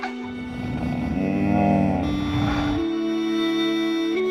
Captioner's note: grunting